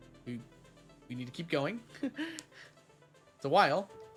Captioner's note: laughs